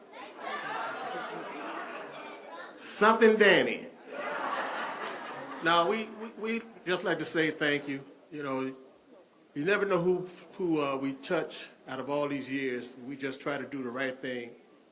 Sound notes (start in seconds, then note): 4.0 laughter